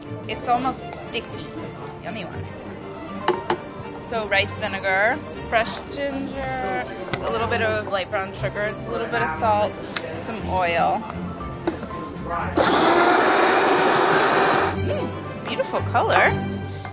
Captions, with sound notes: It's almost sticky, yummy one. So rice vinegar, fresh ginger, a little bit of light brown sugar, a little bit of salt, some oil. [food processor whirring] Mm, it's a beautiful color.